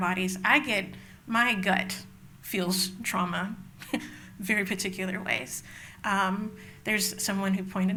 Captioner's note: laughs